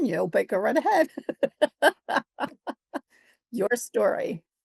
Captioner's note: chuckles